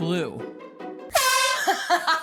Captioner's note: air horn blast